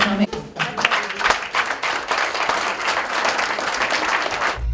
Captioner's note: applause